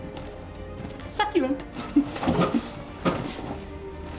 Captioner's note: chuckle